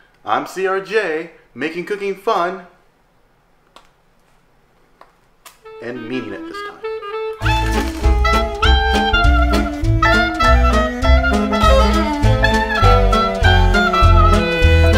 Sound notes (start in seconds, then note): 7.4 crunching; 9.0 jazz music